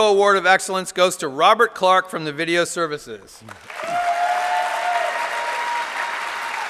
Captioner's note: applause